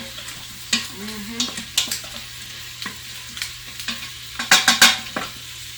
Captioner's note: spoon hitting against pot